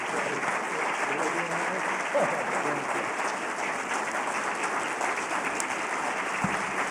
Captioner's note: applause